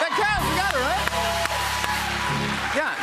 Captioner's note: cheers and applause